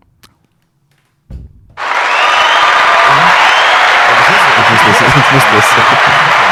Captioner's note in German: applause